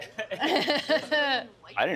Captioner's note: laughing